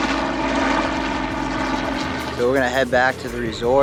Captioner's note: helicopter whirring overhead